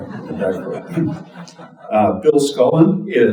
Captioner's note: audience chuckling